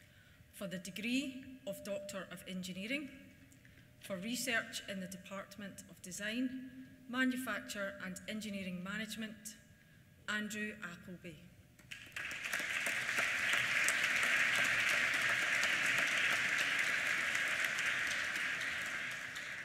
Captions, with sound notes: For the degree of Doctor of Engineering for research in the Department of Design, Manufacture and Engineering Management, Andrew Appleby. (APPLAUSE)